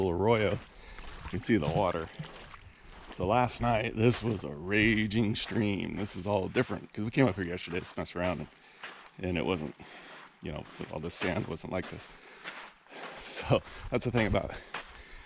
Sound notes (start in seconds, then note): 1.8 footsteps sloshing